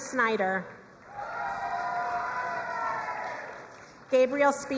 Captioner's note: crowd cheering and applauding